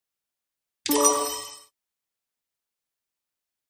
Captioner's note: sonido de timbre correcto